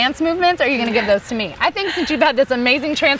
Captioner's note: all laugh